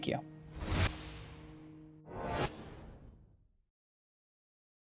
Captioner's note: logo whooshing